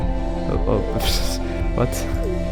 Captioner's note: wheeze